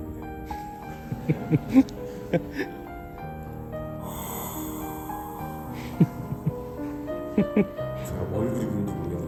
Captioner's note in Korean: 깊은 한숨